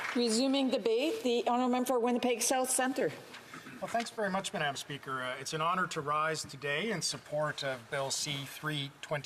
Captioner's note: applause